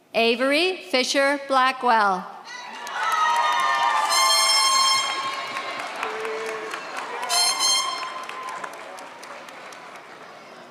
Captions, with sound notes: Avery Fisher Blackwell. (audience cheers) (horn blowing)